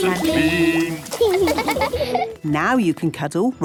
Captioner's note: laughing